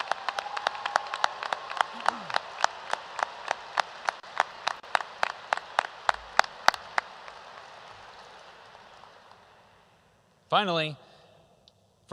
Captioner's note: applause